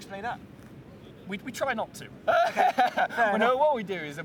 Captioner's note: laughing